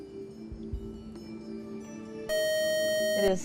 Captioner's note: buzzer